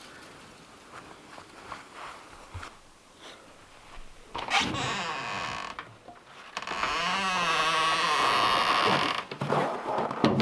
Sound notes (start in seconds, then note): 4.8 door creaks